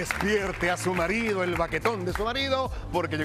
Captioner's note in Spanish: aplausos